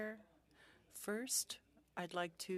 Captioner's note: speaking French